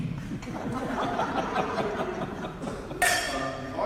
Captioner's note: audience laughs